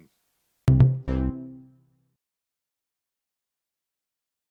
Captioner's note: cheerful tone